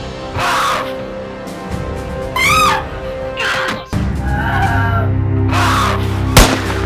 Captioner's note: guns firing; woman screams